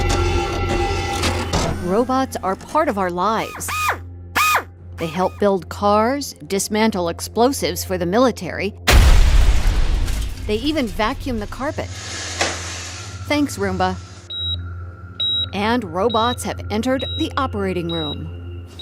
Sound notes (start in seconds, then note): 8.9 explosion; 14.3 beeping